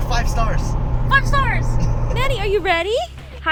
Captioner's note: laughing